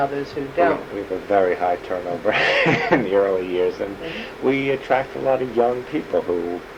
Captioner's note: laughs